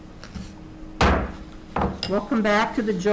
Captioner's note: gavel slams